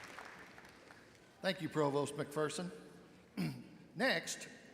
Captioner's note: clears throat